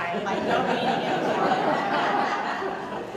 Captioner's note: audience Applause